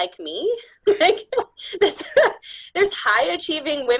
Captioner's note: laughing